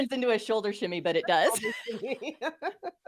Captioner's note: laughs